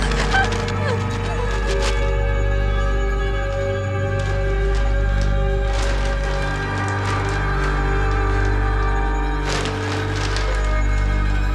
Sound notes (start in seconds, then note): 0.0 yelps; 4.8 gift wrap rustling